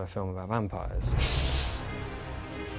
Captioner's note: hisses